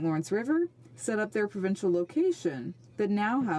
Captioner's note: speaking French